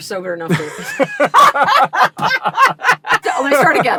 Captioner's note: laughter